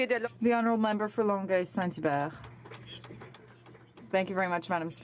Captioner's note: applause; speaking in french